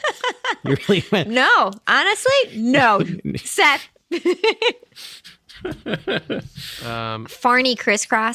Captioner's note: laughing